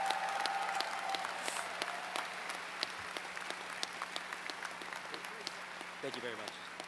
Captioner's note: applause